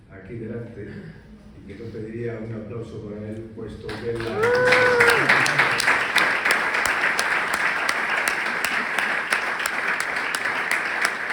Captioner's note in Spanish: aplausos